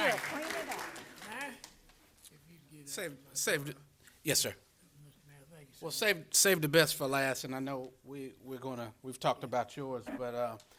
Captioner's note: applause